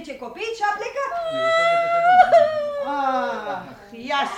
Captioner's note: the girl cries